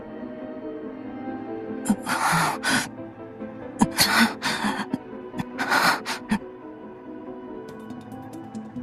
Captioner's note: groan